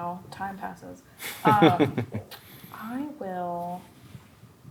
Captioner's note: chuckles